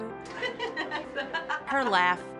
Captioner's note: laughing